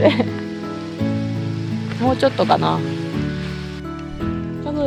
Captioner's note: laughs